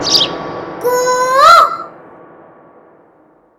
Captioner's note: Mimicking Cuckoo's voice